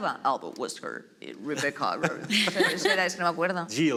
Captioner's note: deep voice